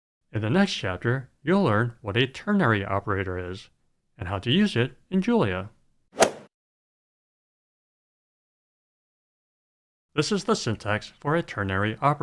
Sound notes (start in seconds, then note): 6.2 swoosh